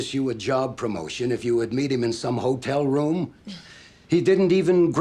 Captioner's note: scoffs